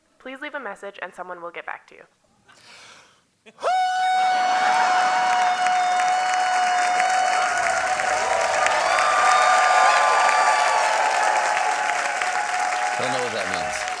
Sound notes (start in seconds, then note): 3.6 cheers and applause; 4.1 howling